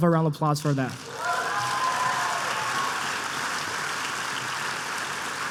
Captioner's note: applause